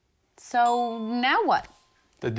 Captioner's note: phone dings